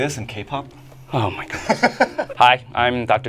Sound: laughs

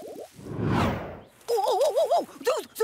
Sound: whooshing

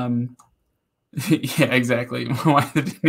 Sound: laughing

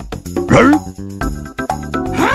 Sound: grunt

